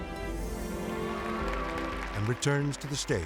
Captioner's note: crowd cheers and applauds